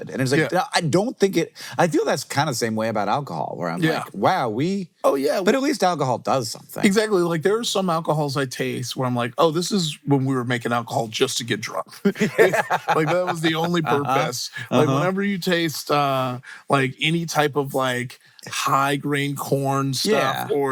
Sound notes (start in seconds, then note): 12.0 laughing